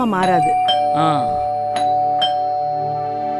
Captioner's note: doorbell rings